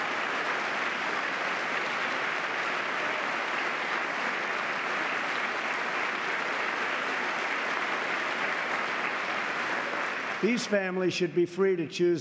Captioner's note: applause